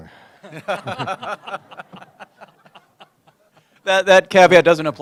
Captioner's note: laughter